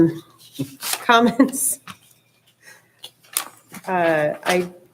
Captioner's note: soft chuckles